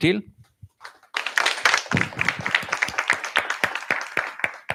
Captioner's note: applause